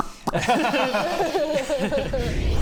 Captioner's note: laughs